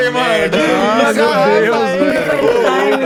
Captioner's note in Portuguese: Todos riem